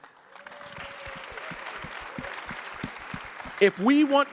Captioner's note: crowd applauding